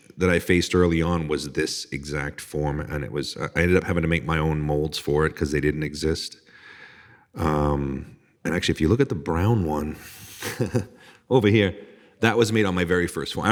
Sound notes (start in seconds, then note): 10.3 chuckling